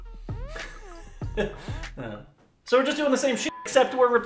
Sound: laughs

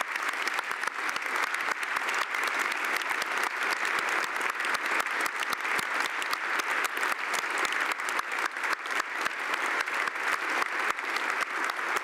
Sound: applause

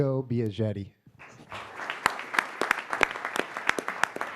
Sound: applause

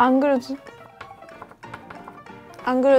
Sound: furious tapping

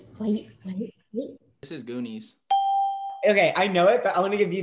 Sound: ding

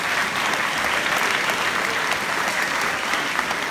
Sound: applause

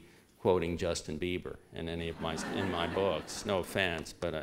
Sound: laughter

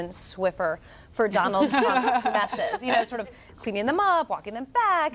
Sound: laughter

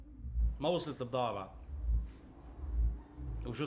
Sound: in Arabic

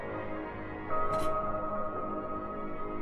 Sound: lid opening

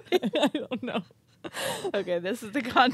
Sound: chuckling; chuckling

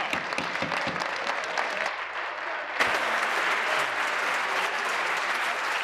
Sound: applause

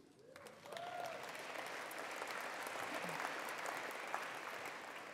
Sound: attendees applauding

